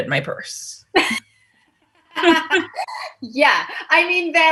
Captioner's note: laughing